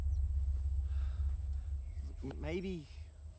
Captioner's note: Daniel sighs